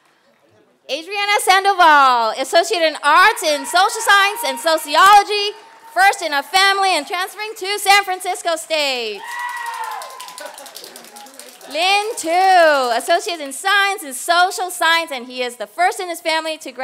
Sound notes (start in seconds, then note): 9.4 applause